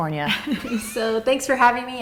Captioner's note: laughing